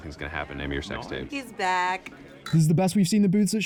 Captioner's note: clink